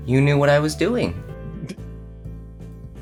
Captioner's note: chuckles